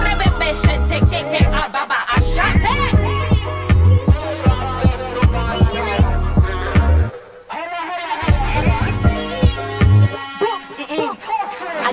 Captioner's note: speaking in tongues